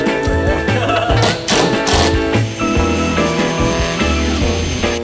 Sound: laughing; drill whirs

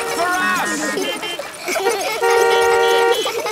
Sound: laughter; beeping

